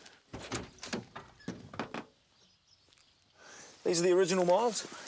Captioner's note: car door clicks